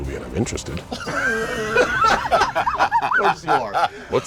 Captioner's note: laughter